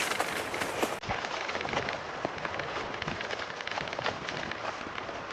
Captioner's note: footsteps crunching